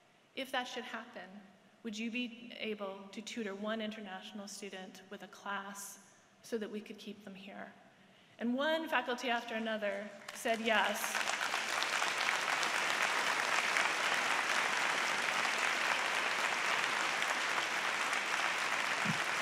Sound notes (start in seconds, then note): 9.9 applause